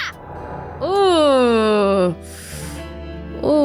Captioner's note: groans